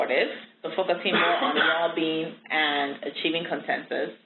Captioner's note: someone coughing